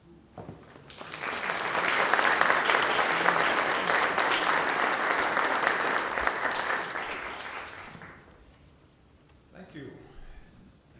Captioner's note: applause